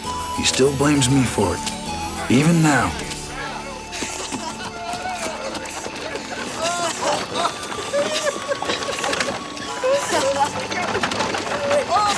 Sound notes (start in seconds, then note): 4.5 Ned and Crecencio laugh; 4.5 warm music